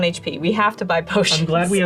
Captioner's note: laughs